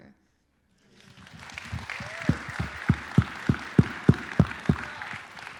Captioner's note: applause